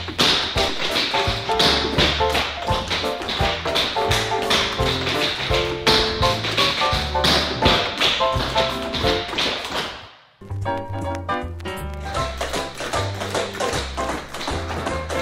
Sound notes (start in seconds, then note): 0.0 upbeat music; 0.3 tap shoes clacking; 4.9 tap shoes clacking; 4.9 upbeat music; 10.4 cheerful music; 11.6 tap shoes clacking